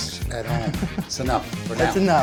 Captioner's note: chuckling